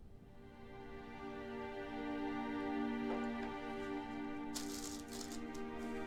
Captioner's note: gentle music; items rustling